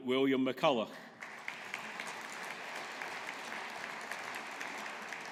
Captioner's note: audience applauding